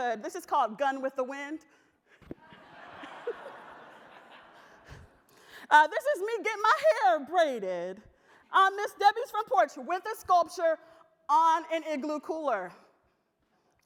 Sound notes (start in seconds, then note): 2.4 audience laughter